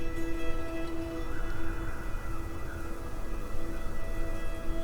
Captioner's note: grass rustling